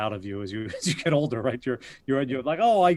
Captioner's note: laughs